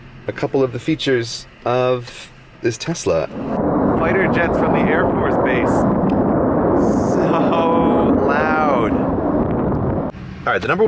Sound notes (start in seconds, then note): 3.0 jet noise, you can see the plane as a speck in the distance